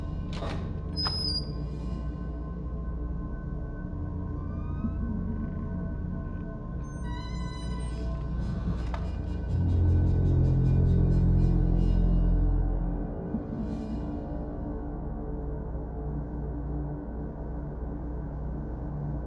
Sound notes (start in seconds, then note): 0.3 door creaks; 4.4 door creaking; 8.6 ominous music continuing